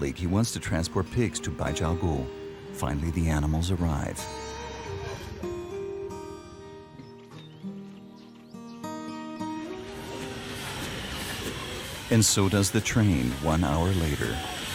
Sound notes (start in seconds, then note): 4.4 soft music; 4.4 train engine revving; 14.5 train engine revving